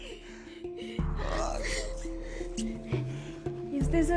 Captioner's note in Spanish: Exclamaciones